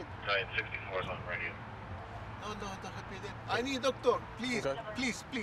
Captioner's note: dispatcher talking